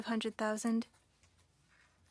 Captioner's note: speaking French